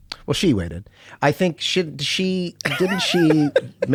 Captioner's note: laughs